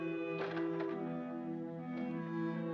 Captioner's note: somber music; door closes; somber music